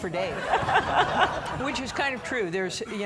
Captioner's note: audience laughing